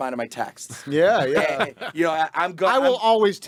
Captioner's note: group laughing